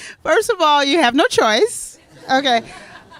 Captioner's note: laughter